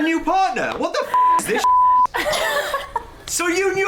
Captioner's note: beep